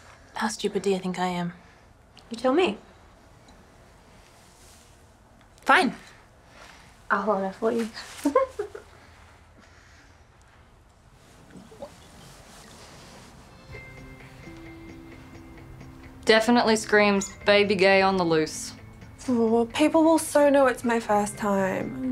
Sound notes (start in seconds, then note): 8.2 giggles; 11.2 drink gurgling; 13.3 soft music